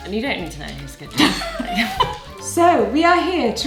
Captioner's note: laughs